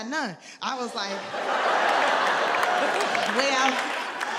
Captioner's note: audience laughs